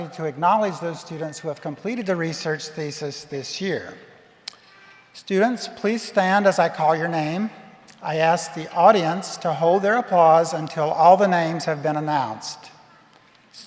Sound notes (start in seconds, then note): none